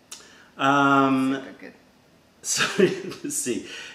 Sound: laughter

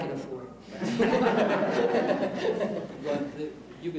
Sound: laughter

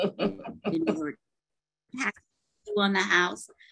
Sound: laughs

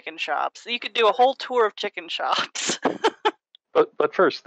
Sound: laughs

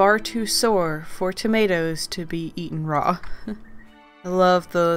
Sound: quiet laugh

